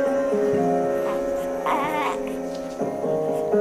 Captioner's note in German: Babylaute; Ruhige Musik